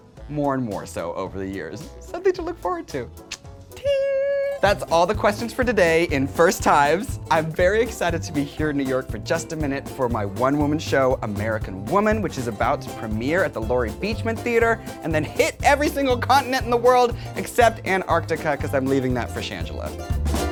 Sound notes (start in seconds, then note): 3.2 clicks tongue; 20.3 playful music